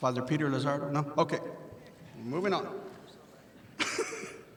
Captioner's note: laughs